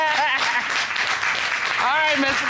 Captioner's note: audience applauding